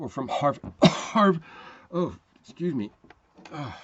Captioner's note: coughing